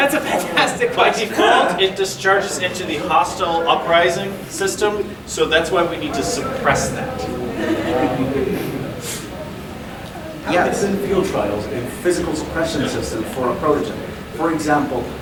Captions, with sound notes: - Ahem. (audience laughing) - That's a fantastic question! - By default it discharges into the hostile uprising system, so that's why we need to suppress that. (audience chuckling) - Yes. - How are the field trials in physical suppression systems for a protogen? For example,